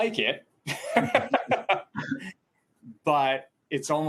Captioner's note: chuckles